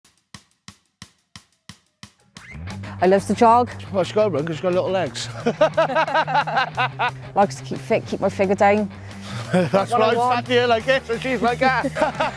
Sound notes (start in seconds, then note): 5.3 laughs; 11.4 both laugh